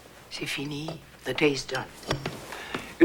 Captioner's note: in French